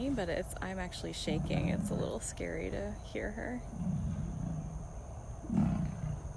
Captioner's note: growling